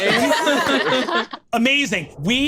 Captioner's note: laughs